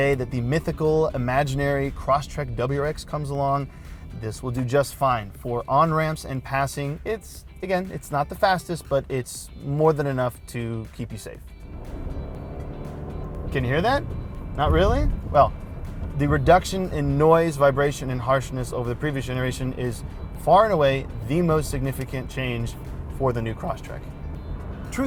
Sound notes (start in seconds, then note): 11.9 engine revs